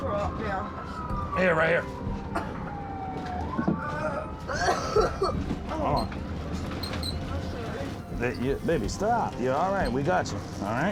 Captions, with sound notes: Here, right here. -(retching, coughing) -Oh. Baby, stop. You're all right. We got you, all right?